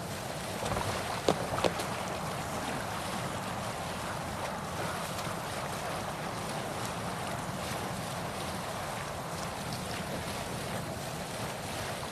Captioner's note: water rushing